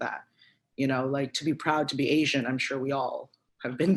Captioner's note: chuckles